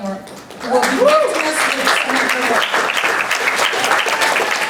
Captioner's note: applause